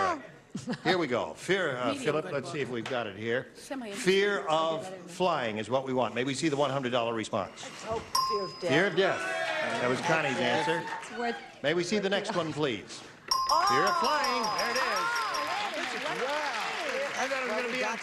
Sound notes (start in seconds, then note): 8.1 beeping; 13.3 beeping